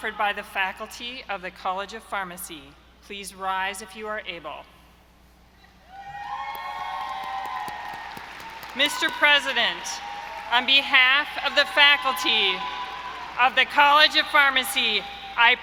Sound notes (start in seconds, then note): 6.0 audience cheering; 6.3 audience applauding